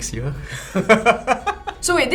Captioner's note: laughs